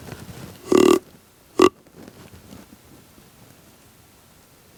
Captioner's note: horn blows